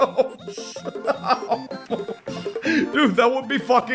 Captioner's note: laughs in disbelief